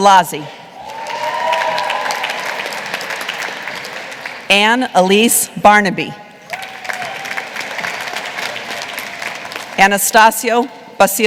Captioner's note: applause